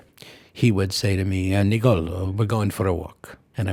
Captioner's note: Italian accent